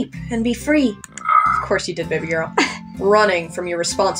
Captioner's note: snicker